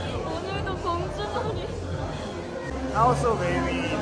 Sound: laughs

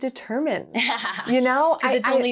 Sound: laughing

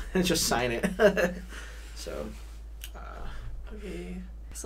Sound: laughs

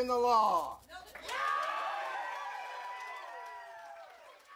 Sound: cheers - Applause

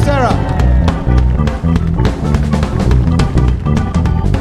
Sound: audience cheering

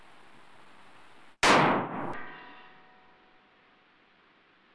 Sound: gunshot booming

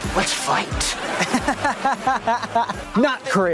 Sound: laughing

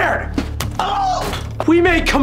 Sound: moans of pain

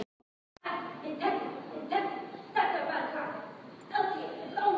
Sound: chanting

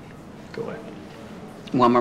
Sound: quietly

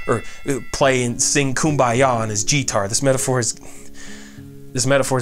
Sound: frustrated sigh

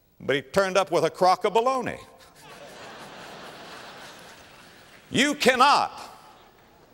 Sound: audience laughter

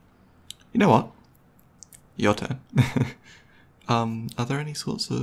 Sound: laughs

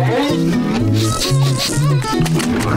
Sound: sniffing

